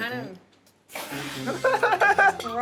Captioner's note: laughing